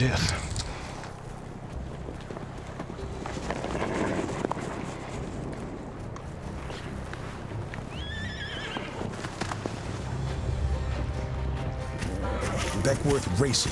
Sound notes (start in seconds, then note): 2.4 tense music; 4.8 horse grunts; 7.7 horse neighs, hoofbeats